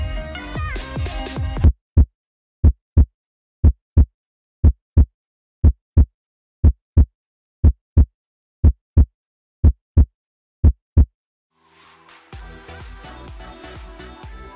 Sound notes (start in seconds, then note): 1.4 heart beat; 11.6 upbeat music